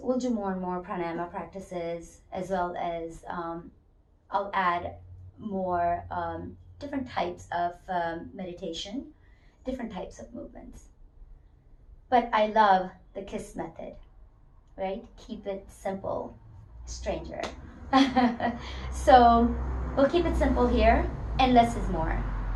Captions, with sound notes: we'll do more and more pranayama practices, as well as-- I'll add different types of meditation, different types of movements. I love the KISS method, keep it simple, stranger [laughs] We'll keep it simple here and less is more.